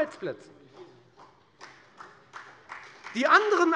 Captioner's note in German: Beifall bei der FDP